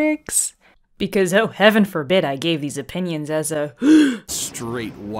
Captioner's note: gasp